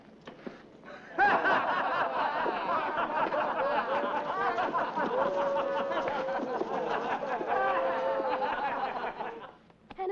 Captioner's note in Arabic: الحشد يضحك